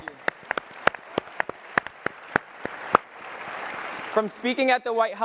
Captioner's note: applause